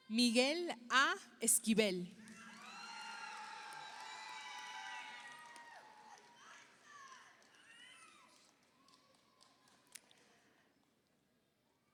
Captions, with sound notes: Miguel A. Esquibel, (audience applauds) (audience cheers)